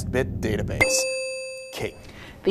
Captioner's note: ding